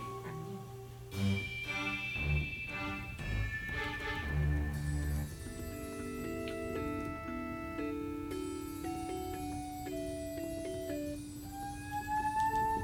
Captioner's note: soft tapping